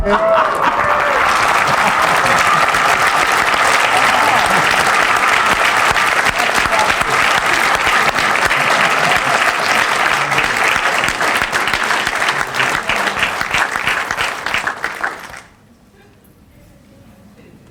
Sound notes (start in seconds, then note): 6.7 applause